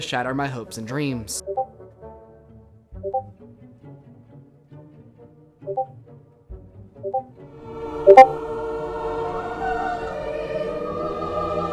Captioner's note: Discord Ping Sounds